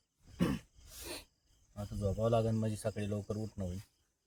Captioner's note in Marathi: घसा साफ करणे